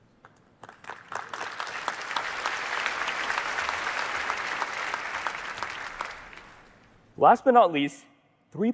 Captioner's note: applause